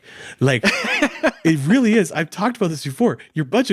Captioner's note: laughing